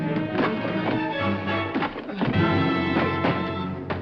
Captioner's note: grunting